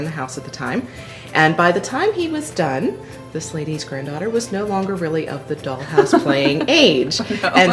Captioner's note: chuckles